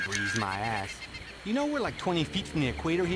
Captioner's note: birds chirping